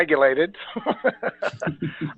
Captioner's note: laughter